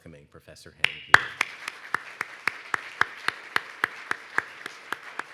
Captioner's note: audience applauds